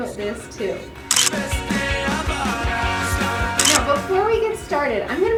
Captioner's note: camera shutter clicks